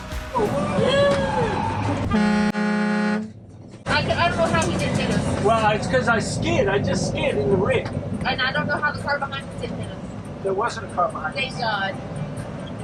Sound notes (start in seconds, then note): 0.0 upbeat music; 2.0 horn honking